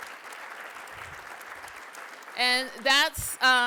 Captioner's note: applause